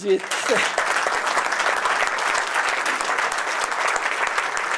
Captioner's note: applause